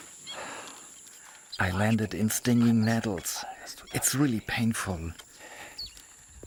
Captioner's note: in German